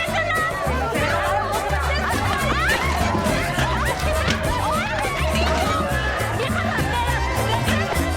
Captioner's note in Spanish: Gritos y exclamaciones